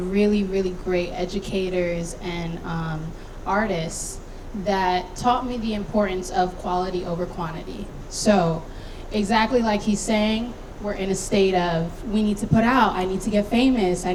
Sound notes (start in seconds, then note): none